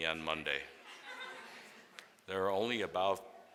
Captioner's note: students laugh